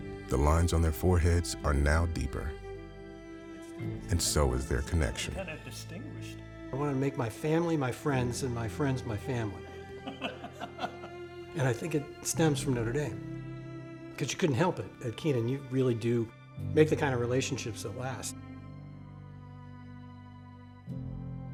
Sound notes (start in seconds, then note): 10.0 both laughing; 18.6 poignant music